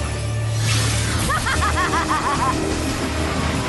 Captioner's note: evil laugh